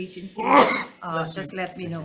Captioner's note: sneezes